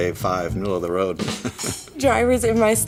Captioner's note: laughing